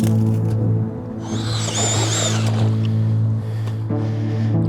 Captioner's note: auger drilling